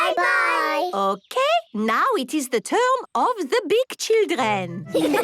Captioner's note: laughter